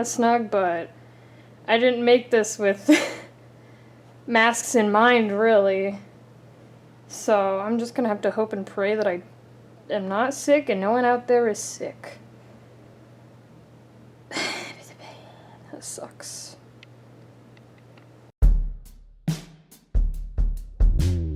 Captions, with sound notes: snug but... I didn't make this with (laughs) masks in mind really. So I'm just gonna have to hope and pray that I am not sick and no one out there is sick. (sighs) This sucks.